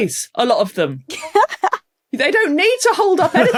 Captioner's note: laughs